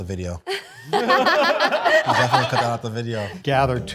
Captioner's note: group laughing